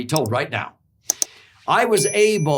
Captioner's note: bell dinging